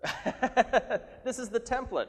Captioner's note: laughing